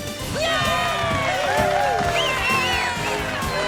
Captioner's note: crowd cheering